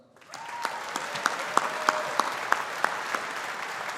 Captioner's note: audience applauding